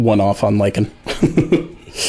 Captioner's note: laughs